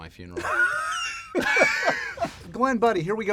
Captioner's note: laughter